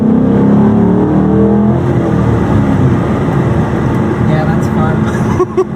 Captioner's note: more V8 revving noises; both laugh